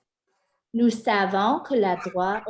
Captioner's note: french spoken